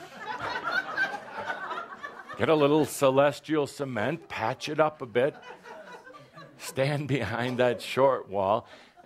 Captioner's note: laughter